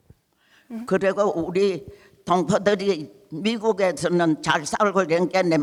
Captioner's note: speaking in foreign language